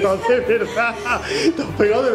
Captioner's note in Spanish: Risas